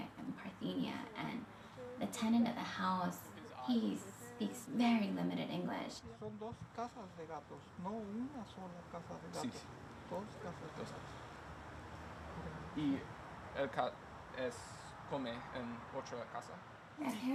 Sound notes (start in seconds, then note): 6.3 speaking in Spanish